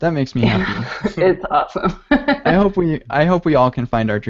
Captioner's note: laughs